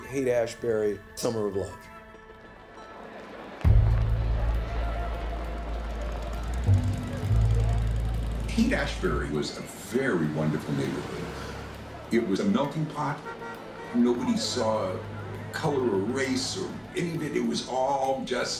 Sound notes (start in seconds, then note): 4.9 building music; 4.9 city traffic